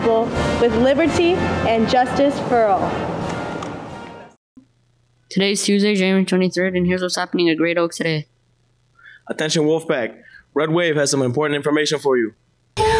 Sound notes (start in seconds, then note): 2.3 nat sound fades out; 12.8 music under